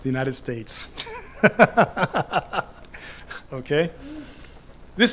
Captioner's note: laughs